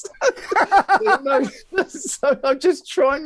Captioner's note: laughing